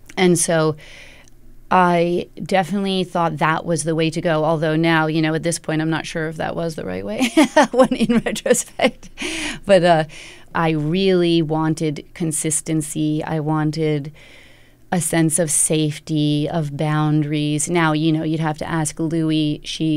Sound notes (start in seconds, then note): 7.2 laughter